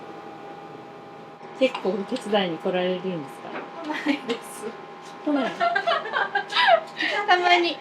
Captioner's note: laughs